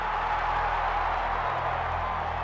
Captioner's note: cheering